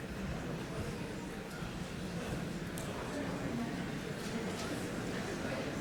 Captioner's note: indistinct chatter